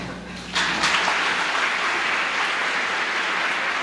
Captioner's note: applause